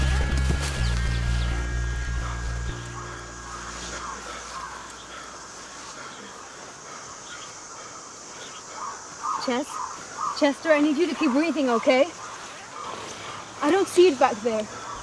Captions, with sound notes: [music fades] (heavy breathng) (heavy breathng) Ches?! Chester, I need you to keep breathing, okay? I don't see it back there!